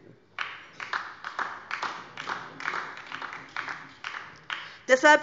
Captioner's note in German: Beifall DIE LINKE